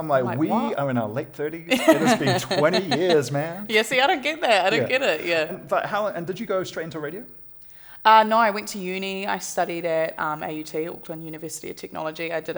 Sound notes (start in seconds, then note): 1.7 laughter